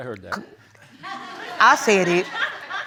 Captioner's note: audience laughs